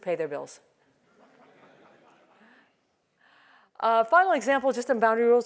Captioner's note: laugh